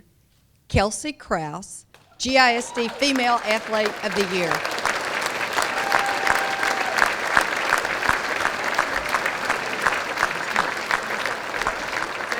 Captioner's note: applause